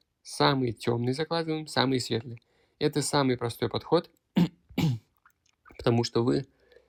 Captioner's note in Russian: кашель; откашливается